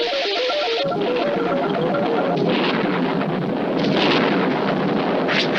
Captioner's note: thunder Strikes